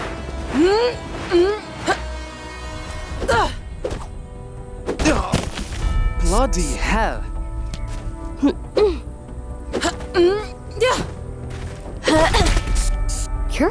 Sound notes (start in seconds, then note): 0.2 all grunting; 9.7 grunting